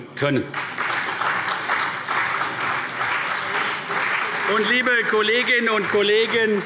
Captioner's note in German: Beifall CDU